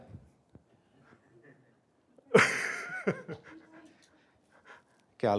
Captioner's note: laughter